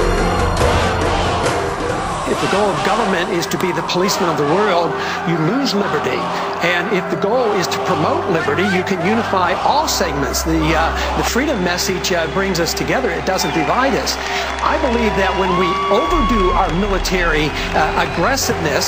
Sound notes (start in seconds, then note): 3.9 cheers and applause